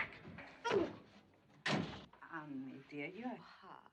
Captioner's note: door Slams